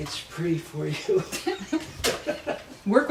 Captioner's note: laughing